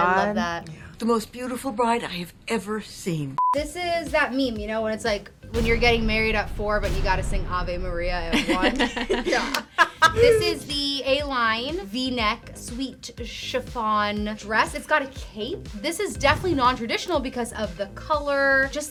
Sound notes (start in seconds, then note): 8.4 all laugh; 8.6 laughs